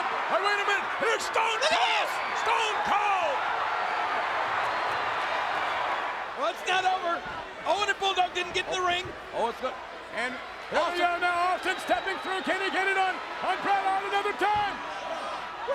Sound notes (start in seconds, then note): 3.3 crowd cheering